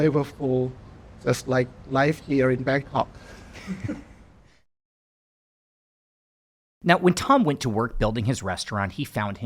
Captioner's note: laughing